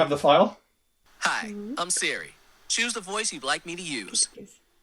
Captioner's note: in the african american man voice option; in the african american woman voice option